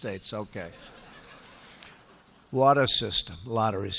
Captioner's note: laughter